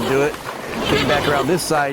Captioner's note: horse sounds